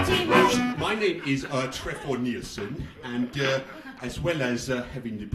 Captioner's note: dodgy european accent